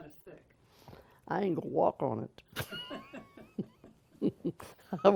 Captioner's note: laughter